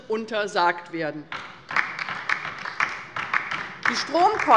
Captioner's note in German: Beifall bei der LINKEN